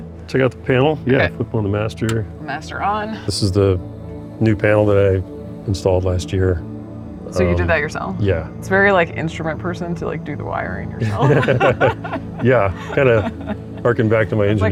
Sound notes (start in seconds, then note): 11.0 laughter